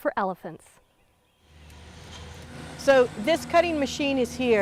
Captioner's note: machine sounds